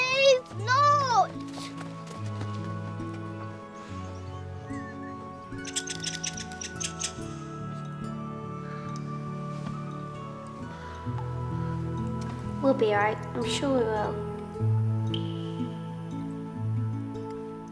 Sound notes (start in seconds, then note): 2.9 rats squeaking; 2.9 somber music